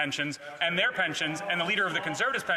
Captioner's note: speaking French